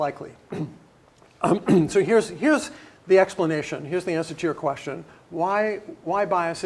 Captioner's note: cough